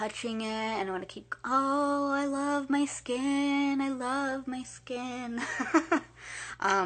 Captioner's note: laughing